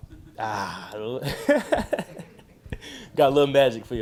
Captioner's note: laughing